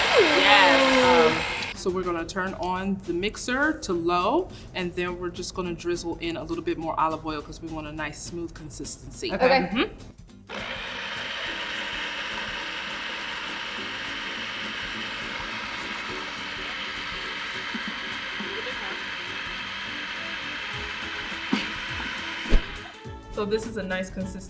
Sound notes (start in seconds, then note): 10.1 blender whirring